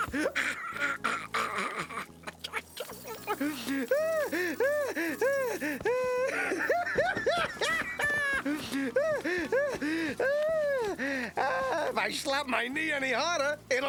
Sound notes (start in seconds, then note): 0.0 choking; 3.2 gasping